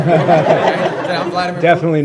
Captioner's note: laughter